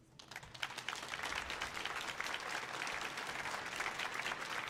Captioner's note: audience applauds